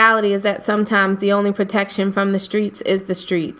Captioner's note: voiceover